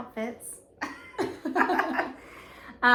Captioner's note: laughter